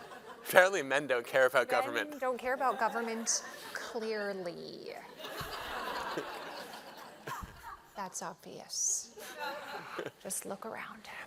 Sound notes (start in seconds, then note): 5.1 laughter